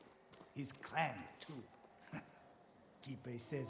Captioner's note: laugh